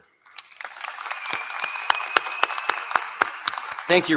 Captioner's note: applause